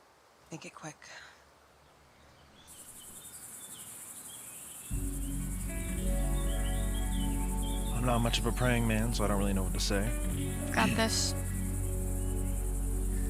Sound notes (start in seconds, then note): 2.7 birds chirping; 2.7 bugs chittering; 5.5 somber music